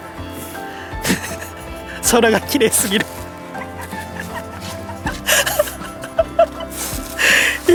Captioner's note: laughs